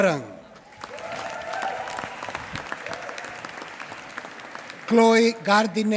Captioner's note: applause